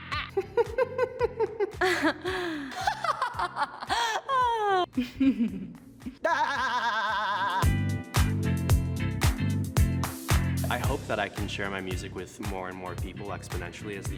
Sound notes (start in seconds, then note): 0.0 giggles; 1.9 laughs